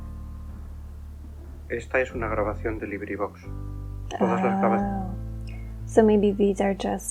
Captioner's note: narrator says "this is a Librivox recording" in Spanish